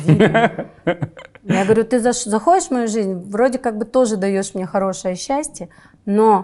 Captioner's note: laughs